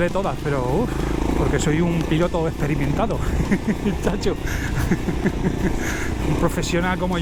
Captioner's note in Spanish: risas